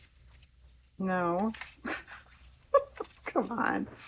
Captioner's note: laughs